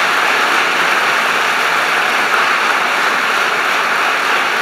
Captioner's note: applause